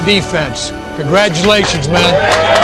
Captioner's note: cheers and applause